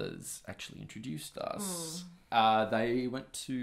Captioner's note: displeased noise